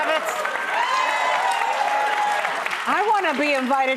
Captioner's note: applause